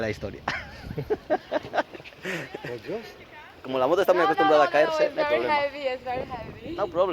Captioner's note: laughs